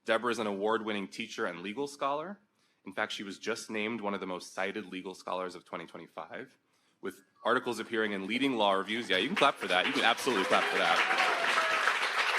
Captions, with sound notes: Deborah is an award-winning teacher and legal scholar. In fact, she was just named one of the most cited legal scholars of 2025 with articles appearing in leading law reviews. Yeah, you can clap for that. (audience applauds) You can absolutely clap for that.